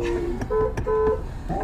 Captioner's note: french singing starts again; beep beep; everyone giggling